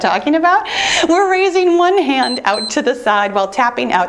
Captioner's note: laughs; timer beeps